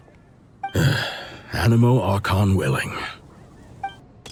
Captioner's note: sigh